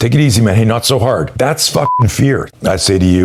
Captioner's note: beep